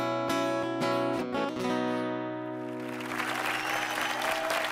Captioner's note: cheers and applause